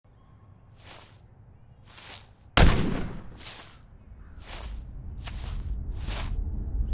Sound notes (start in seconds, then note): 2.6 gunshot